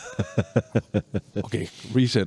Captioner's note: laughing